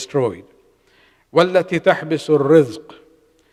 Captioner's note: arabic